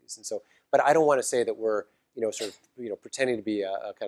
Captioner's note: cough